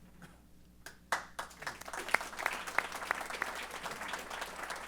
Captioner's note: applause